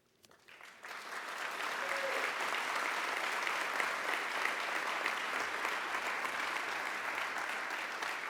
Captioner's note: applause